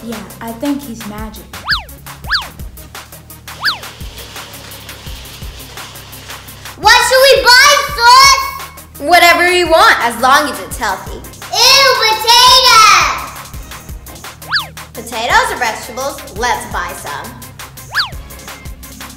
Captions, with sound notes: - Yeah, I think he's magic. (upbeat music) (wheels grating) - What should we buy Sis? - Whatever we want, as long as it's healthy. - Ooh, potatoes! - Potatoes are vegetables, let's buy some.